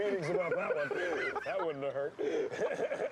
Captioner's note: laughing